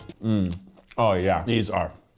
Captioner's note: humming